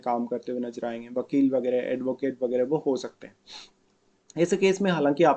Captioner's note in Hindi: नाक से की जाने वाली आवाज़